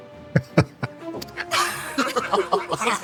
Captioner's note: laughter